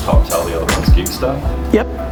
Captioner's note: mutters